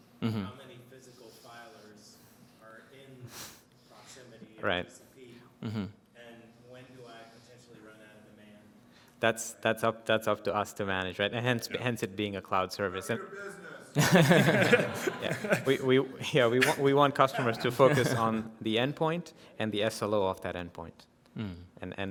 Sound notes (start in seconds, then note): 13.9 laughter